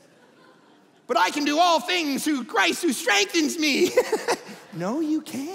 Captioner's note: laughing